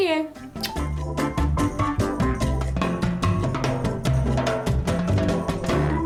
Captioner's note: upbeat music; kiss sound